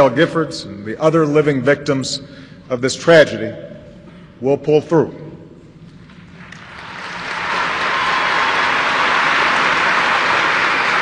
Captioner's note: applause